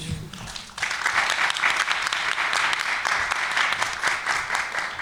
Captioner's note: applause